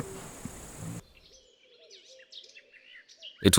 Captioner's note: cichy śpiew ptaków